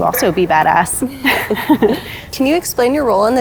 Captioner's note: both giggling